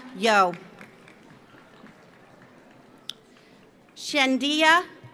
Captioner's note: audience applauds